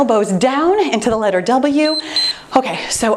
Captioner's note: timer beeps